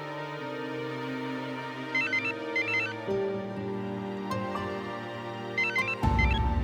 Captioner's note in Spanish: suena el celular